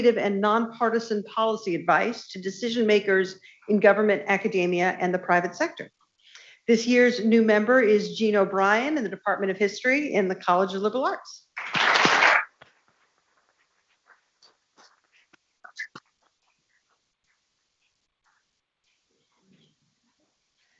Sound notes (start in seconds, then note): 11.5 people clapping